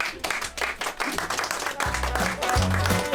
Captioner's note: audience applaud; bouncy Christmas music